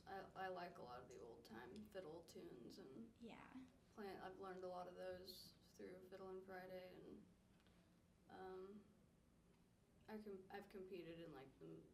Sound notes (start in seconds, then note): none